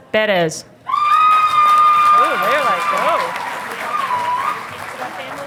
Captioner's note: audience applauding